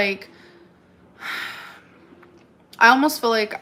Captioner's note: sighs